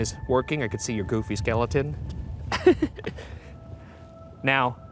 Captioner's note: chuckles